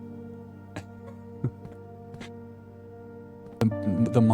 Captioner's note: chuckles